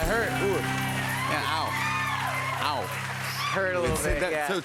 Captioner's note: cheers and applause